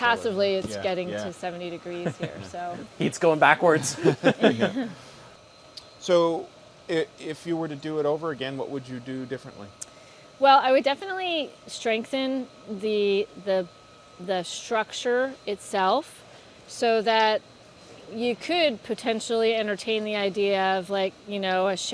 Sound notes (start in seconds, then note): 3.8 laughter